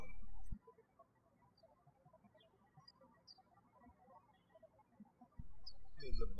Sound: birds chirping

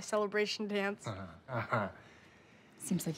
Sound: chuckles

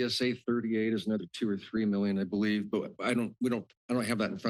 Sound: stutters

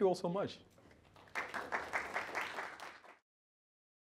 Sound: applause

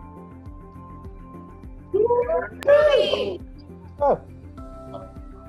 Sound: cheering

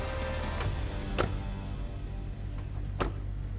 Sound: doors shut

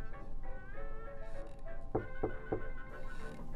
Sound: knocking

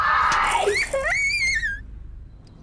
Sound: rattle sounds, toddler whimping

